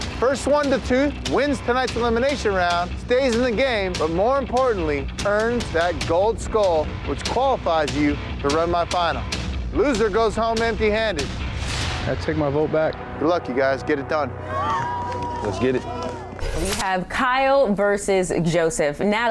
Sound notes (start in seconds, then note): 14.4 cheering